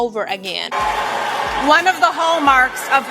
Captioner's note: crowd boos